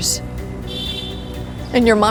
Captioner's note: bell honking